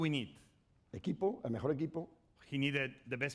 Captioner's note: speaking spanish